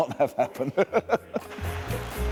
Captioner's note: laughs